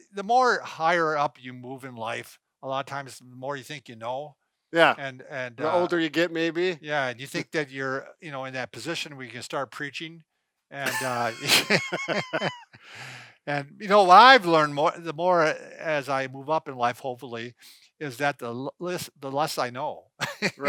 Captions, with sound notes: The more higher up you move in life, a lot of times more you think you know and-- - The older you get maybe? - Yeah, and you think that you're in that position where you can start preaching and-- (both laughing) What I've learned the more as I move up in life, hopefully, is that the less I know. (laughs)